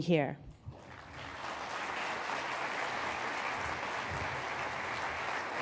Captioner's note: applause